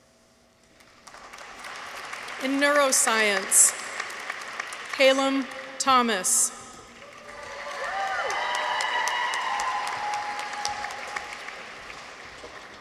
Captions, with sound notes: (audience applauds) In Neuroscience. Callum Thomas. -(people cheer) -(audience applauds)